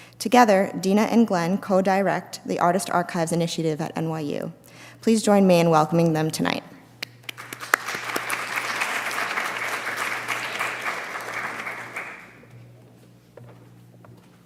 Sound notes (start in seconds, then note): 7.2 audience applauding